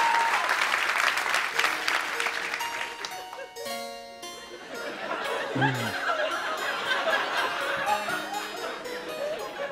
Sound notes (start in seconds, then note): 1.5 slow music plays; 4.6 laughter